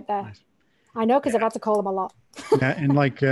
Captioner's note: laughing